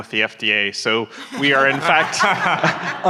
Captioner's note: audience laughing